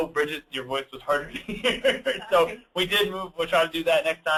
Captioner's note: laughing